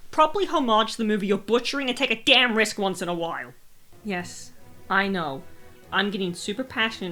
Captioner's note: deep breath